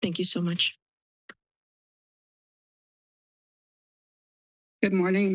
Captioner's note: silence